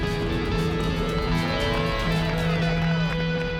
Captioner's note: cheers, applause